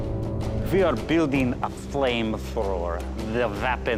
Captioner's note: eastern European accent